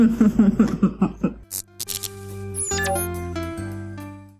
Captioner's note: chuckles; fizz, robot blip